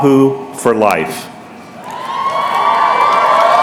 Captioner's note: applause